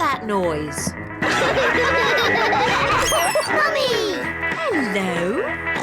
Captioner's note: all laugh